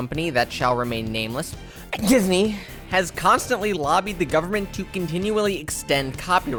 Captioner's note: sneeze